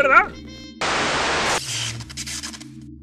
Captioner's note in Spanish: Estática